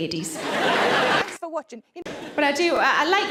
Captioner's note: audience laughs